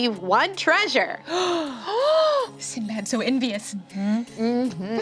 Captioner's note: gasps